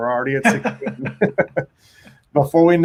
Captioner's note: both laughing